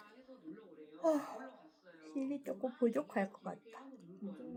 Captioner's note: yawn